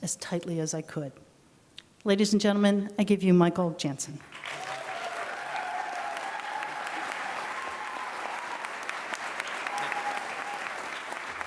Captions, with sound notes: as tightly as I could." Ladies and gentlemen, I give you Michael Janssen. [APPLAUSE]